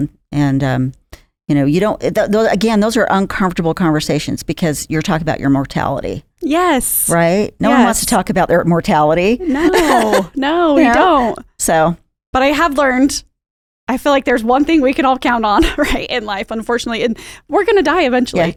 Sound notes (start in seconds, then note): 9.4 laughs